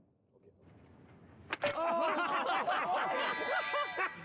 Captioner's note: laughter